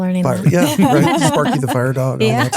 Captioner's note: laughing